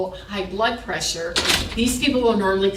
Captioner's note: door shuts